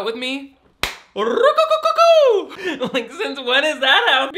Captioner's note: hand claps